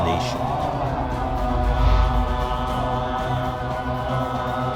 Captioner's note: monks praying